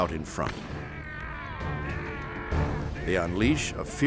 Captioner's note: soldiers grunting